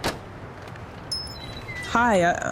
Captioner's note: door opens; door closes